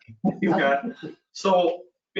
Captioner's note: male laughs